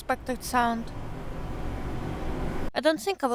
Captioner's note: noise of streets gets louder